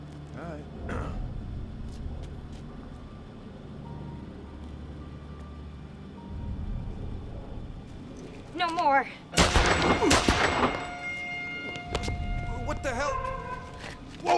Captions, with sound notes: All right. (clears throat) - No more. (gun blasts) (sharp climactic music) - What the hell?